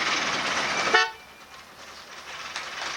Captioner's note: beep